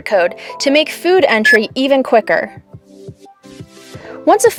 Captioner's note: barcode scanner beeping